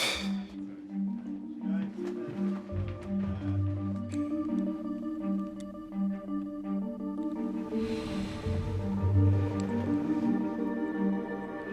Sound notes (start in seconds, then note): 0.9 scoffs